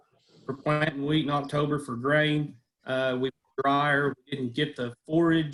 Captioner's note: audio is choppy